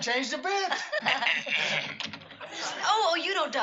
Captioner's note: clears throat